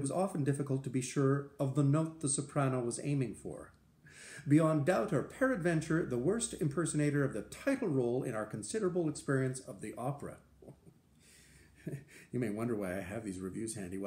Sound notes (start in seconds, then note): 11.8 laughter